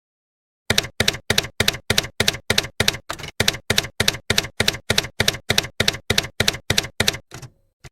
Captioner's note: typewriter keys clacking